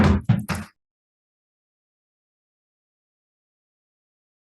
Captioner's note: gavel bangs